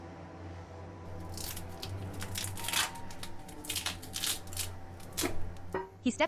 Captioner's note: tape ripping